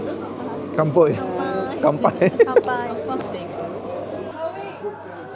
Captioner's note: laugh